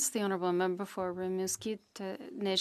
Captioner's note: speaking French